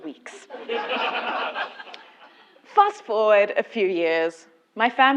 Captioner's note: laugh